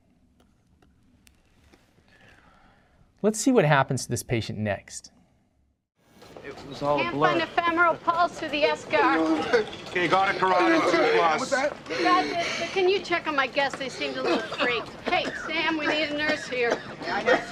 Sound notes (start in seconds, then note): 9.2 groaning; 16.5 coughing